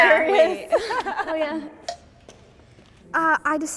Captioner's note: timer taps